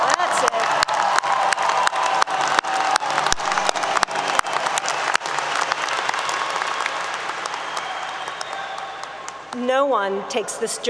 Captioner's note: applause 👏 👏